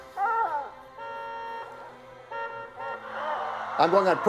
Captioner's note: honking and tires squealing